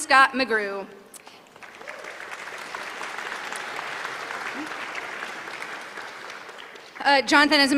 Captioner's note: applause